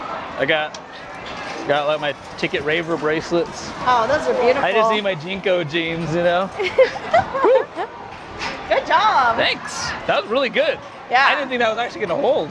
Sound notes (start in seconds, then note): 6.5 giggles